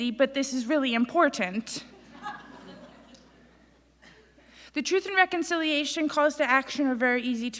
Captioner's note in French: Rires